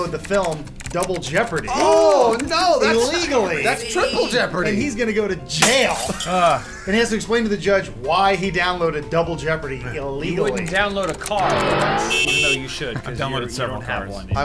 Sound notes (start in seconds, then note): 5.6 glass shattering